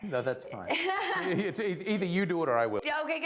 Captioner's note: laughing